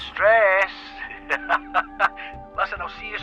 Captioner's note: laughing